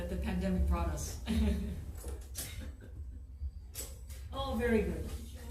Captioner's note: laughs